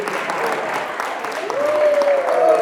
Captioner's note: cheers